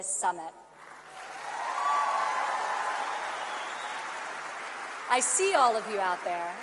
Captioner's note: applause